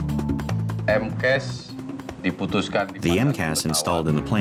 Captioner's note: non-english speech